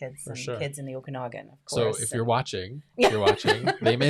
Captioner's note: laughs